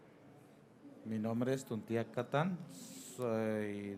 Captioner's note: speaking in foreign language